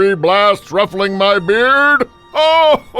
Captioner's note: chuckles